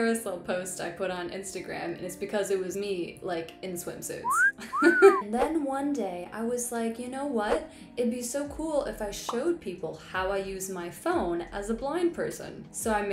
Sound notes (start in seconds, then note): 4.2 whistle noise